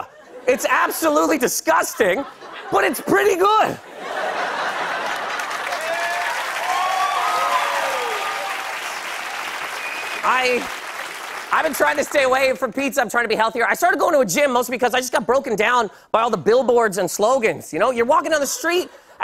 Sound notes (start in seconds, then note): 3.8 laughter; 4.6 cheers and applause